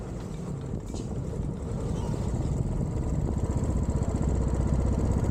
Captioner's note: engine, traffic and town sounds